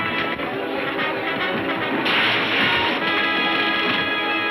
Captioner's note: railing crashing